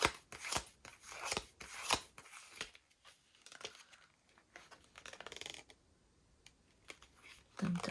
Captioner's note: drawing cards